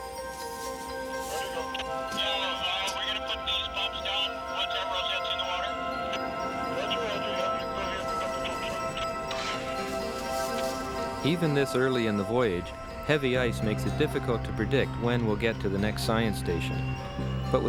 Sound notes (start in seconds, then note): 0.1 upbeat music; 3.0 radio chatter